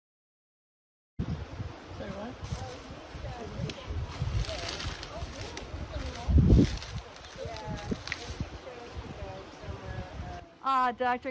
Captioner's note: water flowing and palm fronds crunching